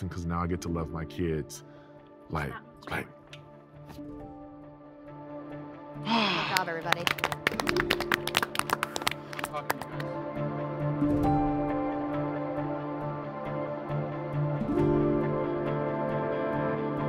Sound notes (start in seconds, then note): 6.3 all applaud; 7.1 celestial music